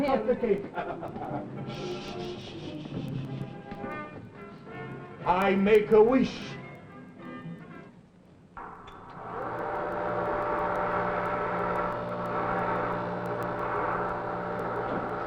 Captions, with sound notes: - Ah yes, we cut the cake (laughs). Shh, shh, shh, shh, shh. I make a wish. (machines humming)